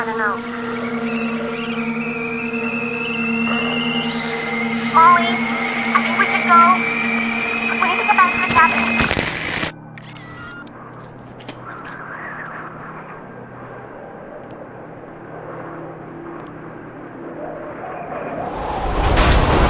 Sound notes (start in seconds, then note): 2.1 creatures squeaking; 9.9 film scratching; 12.4 wind howling